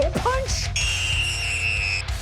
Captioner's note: screaming